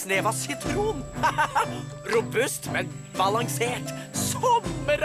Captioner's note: laughs